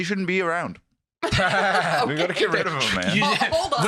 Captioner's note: laughing